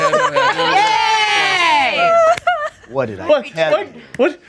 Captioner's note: group cheering